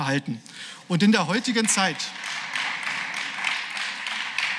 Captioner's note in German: Beifall